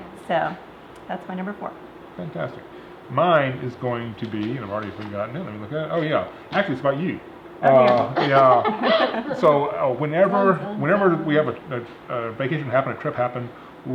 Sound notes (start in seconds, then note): 7.9 ladies laughing